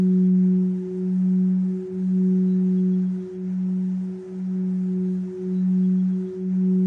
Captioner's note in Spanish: none